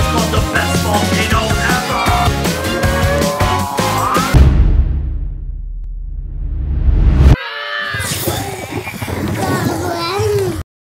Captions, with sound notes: It's called the best volcano ever [Boom]